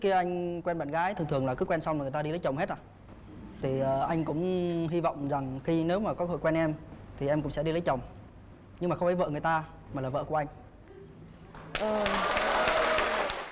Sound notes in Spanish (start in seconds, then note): 11.5 Aplauso